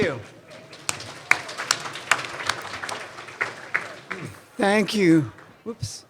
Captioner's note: audience applauding